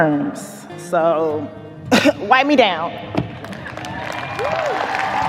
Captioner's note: clears throat; audience cheers, applauds